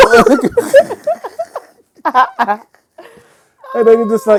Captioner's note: laughing